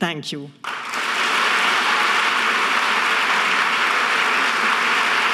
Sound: audience clapping

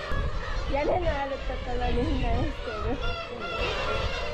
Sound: haha

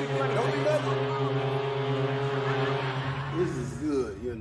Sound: boat horns

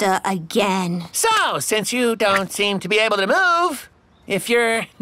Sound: door opens

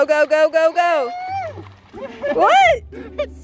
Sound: squeals and laughs

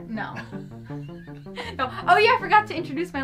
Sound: both chuckle

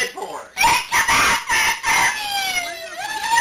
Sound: wailing

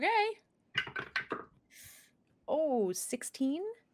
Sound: dice clacking

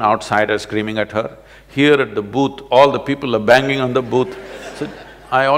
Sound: laughter

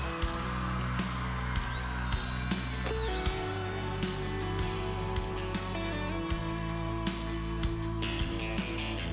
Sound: applause, cheering, whistling

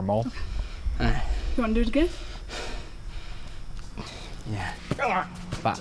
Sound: groaning

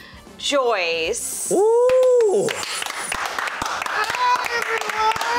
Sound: clapping

